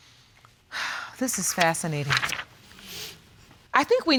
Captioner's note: sighs